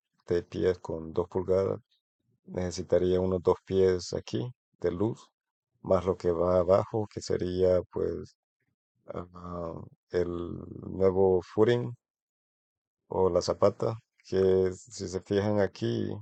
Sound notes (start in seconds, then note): 11.5 Spanish